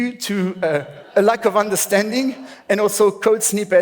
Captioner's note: laughs